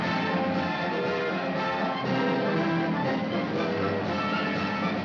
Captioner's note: horn blowing